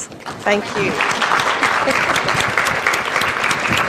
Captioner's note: applause